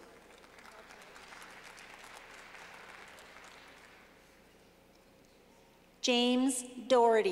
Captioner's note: clapping